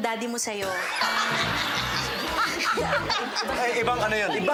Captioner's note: laughter; comical music playing